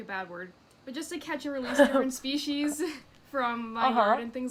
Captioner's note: laughs